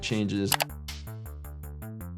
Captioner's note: keyboard clacking; upbeat music